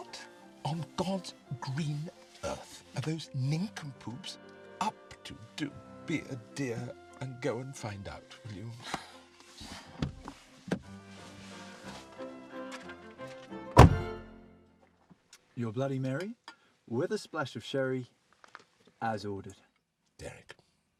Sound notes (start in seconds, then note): 9.0 gentle classical music; 9.3 Tanya sighs